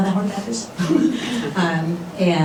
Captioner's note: laughter